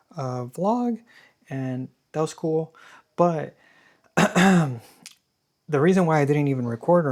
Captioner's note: clears throat